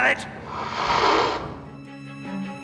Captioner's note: cat hisses; dramatic music